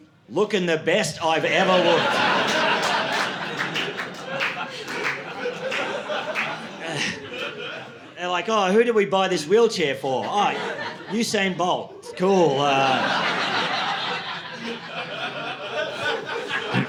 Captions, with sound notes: looking the best I've ever looked. (audience laughing) They're like, oh, who did we buy this wheelchair for? Usain Bolt, cool. (audience laughing)